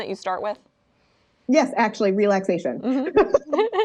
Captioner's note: laughs